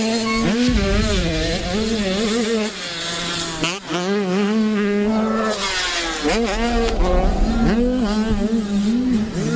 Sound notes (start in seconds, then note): 0.6 fast whoosh sfx; 5.6 whoosh sfx